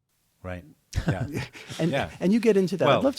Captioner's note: chuckles